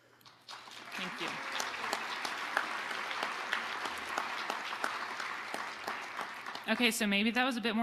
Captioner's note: audience applauding